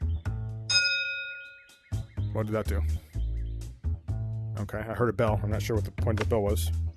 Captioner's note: ding